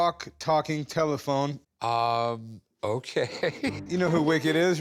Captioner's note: laughs